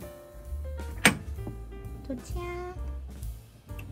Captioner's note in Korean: 문 여는 소리